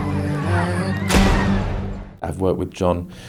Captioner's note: gunshot